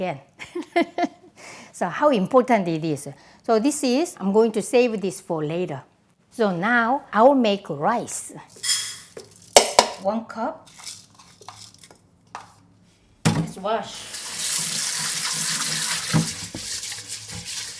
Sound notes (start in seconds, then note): 0.2 laughs; 13.9 faucet running